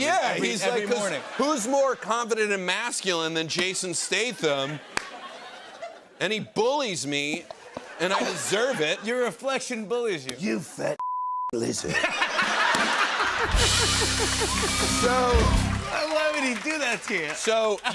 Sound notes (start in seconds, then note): 4.0 laughter; 11.8 laughter